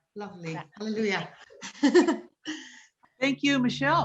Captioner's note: laughs